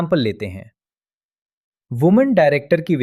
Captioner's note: pause